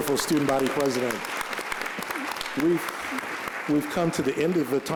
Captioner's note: applause